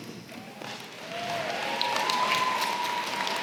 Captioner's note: applause